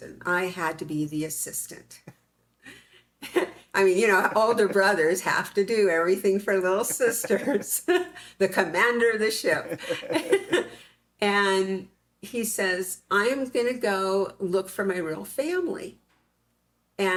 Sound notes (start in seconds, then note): 9.4 both laughing